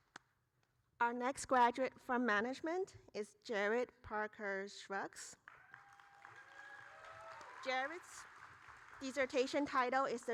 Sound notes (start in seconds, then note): 5.6 audience cheering